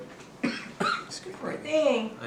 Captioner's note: coughing